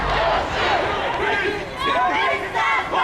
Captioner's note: crowd